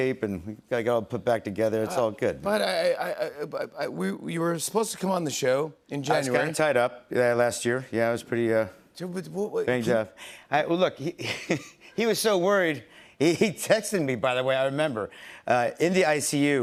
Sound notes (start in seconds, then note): 11.2 chuckles